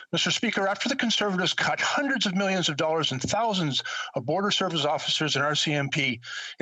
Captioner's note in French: voix de l'interprète